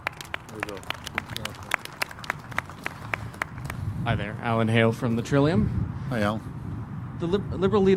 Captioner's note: applause